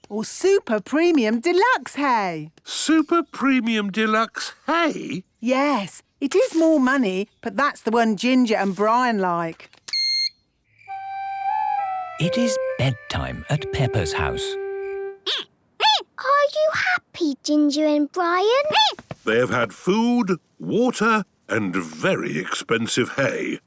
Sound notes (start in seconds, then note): 10.0 beep!; 15.0 squeaking